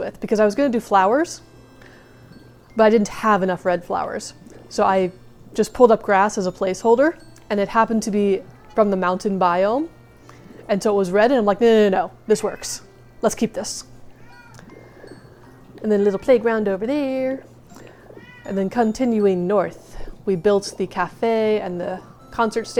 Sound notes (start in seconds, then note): 14.1 kitty meows